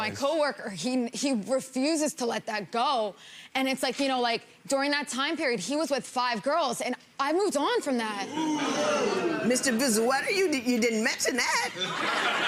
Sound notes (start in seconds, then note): 8.2 audience groans; 11.7 audience laughs